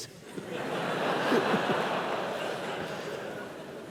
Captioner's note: laughter